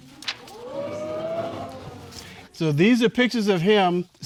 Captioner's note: audience exclaiming